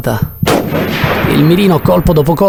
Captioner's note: gunshot